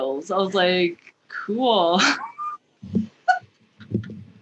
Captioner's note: laughs